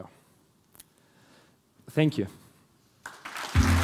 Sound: applause

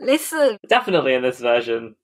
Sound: laughs

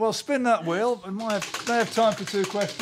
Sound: wheel clacking

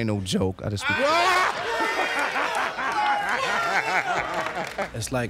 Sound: laughter and shouting

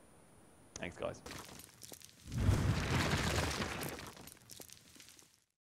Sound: bricks falling

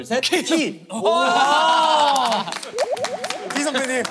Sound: exclaiming

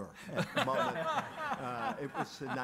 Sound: all laughing

